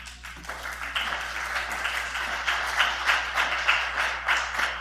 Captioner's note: audience applauding